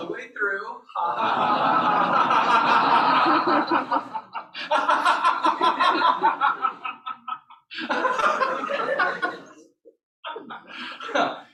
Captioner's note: laughter